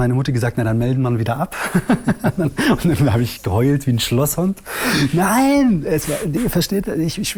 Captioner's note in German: lacht